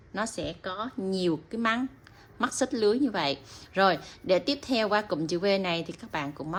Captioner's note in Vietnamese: khịt mũi